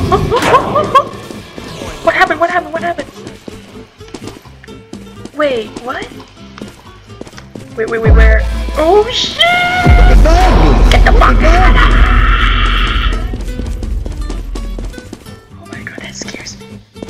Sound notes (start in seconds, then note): 8.0 intense rizz sound; 11.0 crusty screaming